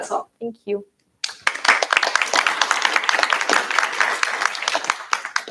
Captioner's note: applause